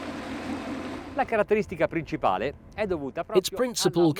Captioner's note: speaks in foreign language